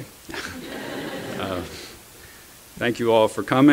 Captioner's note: laughter